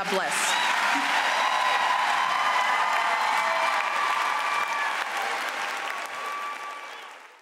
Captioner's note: applause